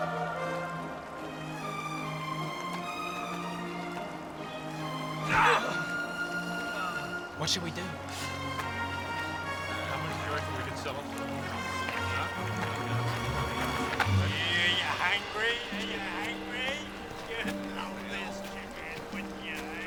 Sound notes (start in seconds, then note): 5.2 shouts